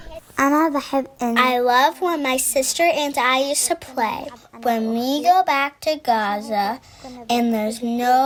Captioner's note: through translator